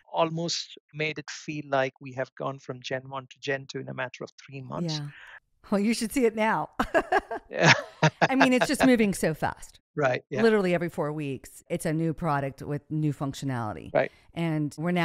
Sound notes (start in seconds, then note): 6.8 laughs